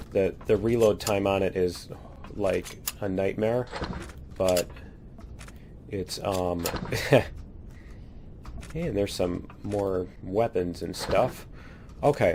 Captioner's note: laughs